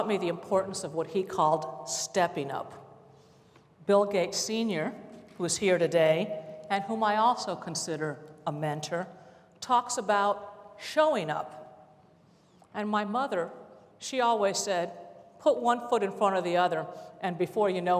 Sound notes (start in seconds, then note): none